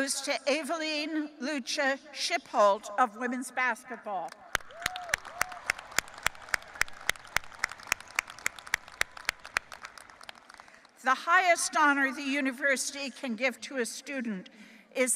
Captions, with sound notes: to Evelyn Luca Shipholt of women's basketball. (audience applauding and cheering) The highest honor the university can give to a student